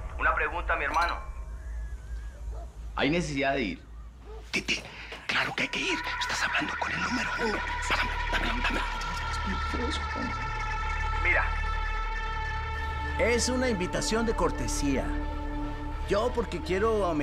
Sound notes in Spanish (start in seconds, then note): 11.3 Habla entre dientes